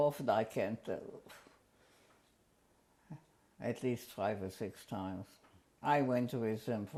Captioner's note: pauses for 3 seconds